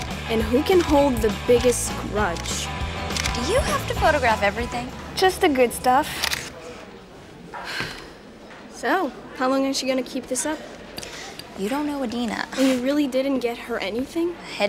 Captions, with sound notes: and who can hold the biggest grudge. - Do you have to photograph everything? - Just the good stuff. - Pfft. (Cody sighs) - So, how long is she going to keep this up? - You don't know Adena. (scoffs) - And you really didn't get her anything?